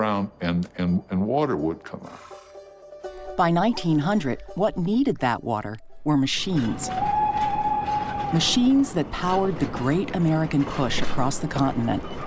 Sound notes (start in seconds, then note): 6.6 train whistle